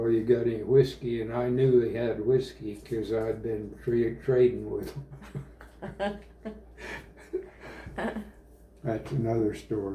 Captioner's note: laughter